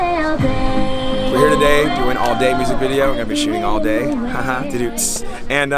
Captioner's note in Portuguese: haha